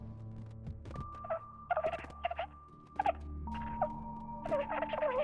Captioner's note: recording warbling